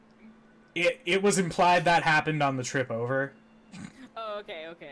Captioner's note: snorts